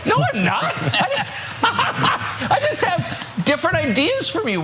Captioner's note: laugh